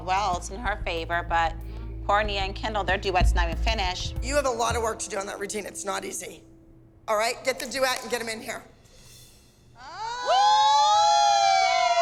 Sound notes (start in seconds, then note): 9.8 dance moms cheering